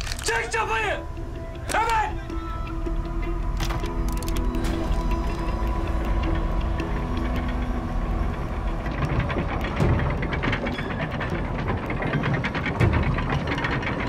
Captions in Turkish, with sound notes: Çek çapayı, hemen! (Çapa çekme sesi)